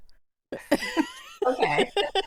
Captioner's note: laughing